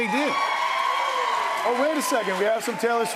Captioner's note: cheers and applause